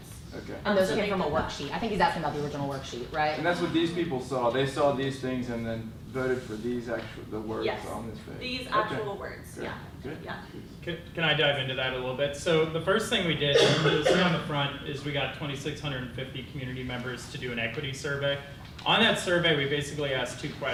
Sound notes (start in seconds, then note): 13.5 person coughing